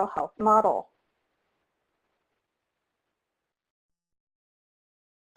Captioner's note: silence